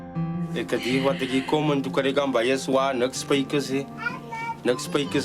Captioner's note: speaking foreign language